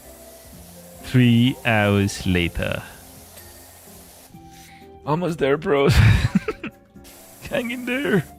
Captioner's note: laughter